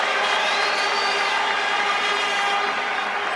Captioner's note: cheering, horns blaring